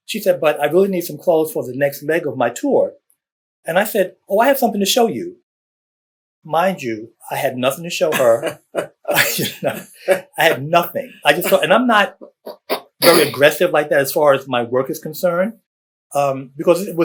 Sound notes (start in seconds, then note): 8.1 laughter